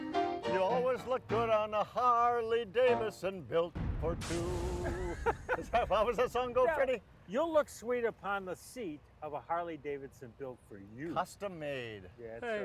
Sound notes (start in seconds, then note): 4.7 laughs